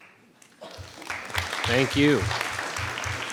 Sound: audience applauds

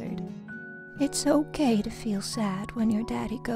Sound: voiceover

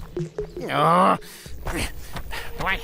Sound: grumbling

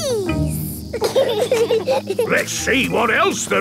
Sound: bees buzzing

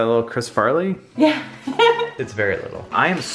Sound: laughs

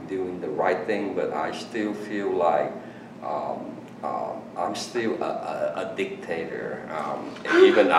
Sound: laughs

